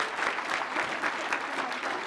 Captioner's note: applause